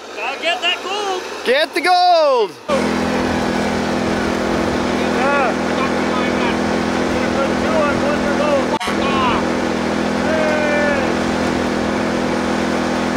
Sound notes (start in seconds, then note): 2.8 engine runs; 9.3 car horn honks; 10.1 man shouts